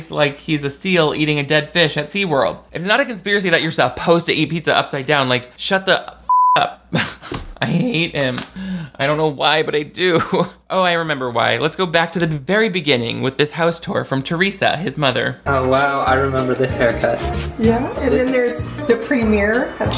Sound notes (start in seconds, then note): 6.3 beep